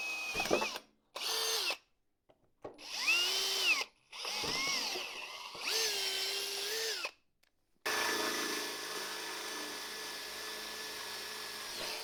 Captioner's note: drill noises